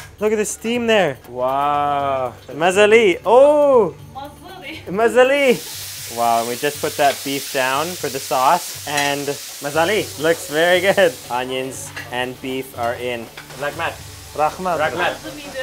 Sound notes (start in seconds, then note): 2.5 speaking foreign language; 5.5 sizzling; 9.8 speaking foreign language